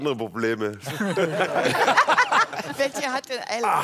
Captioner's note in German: Lachen